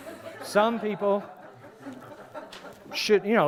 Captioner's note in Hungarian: Nevetés